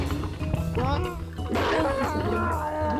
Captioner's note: whimpers